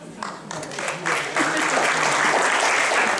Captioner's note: applause